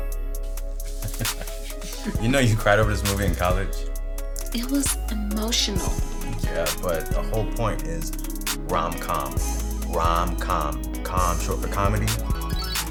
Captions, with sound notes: I'm just saying. Oh, crazy. Why you always wanna start? He's peeping on your ass, can't take it. Oh, I can't believe you hit me. (laughing) Stupid.